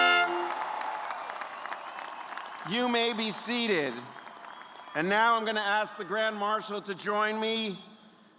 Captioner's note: cheers and applause